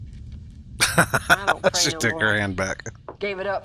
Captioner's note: laughing